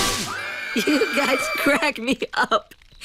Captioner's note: screaming